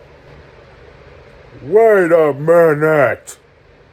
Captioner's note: shocked voice